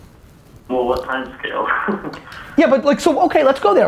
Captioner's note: laughs